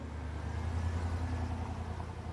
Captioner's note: vehicle driving